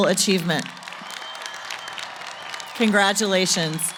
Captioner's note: applause